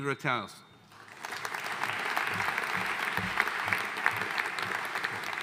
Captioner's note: audience cheering